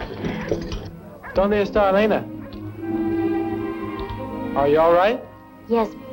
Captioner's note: chuckling; speaking spanish